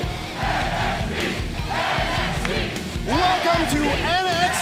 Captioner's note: crowd cheering